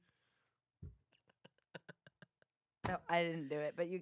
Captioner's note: laughs